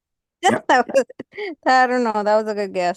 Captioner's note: laughs